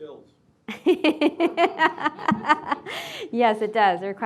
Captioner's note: laughing